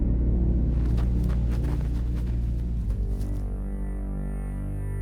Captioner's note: footsteps pattering